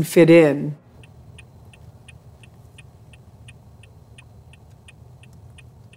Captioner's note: turn signal ticking